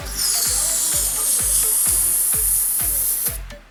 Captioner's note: pressure gun hisses